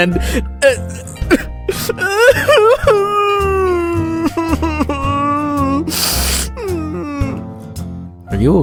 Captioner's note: crying